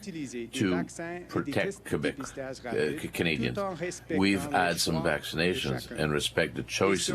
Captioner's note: speaking French